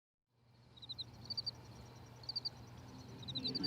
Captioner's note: birds chirping